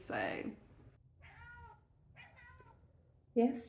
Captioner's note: cat meowing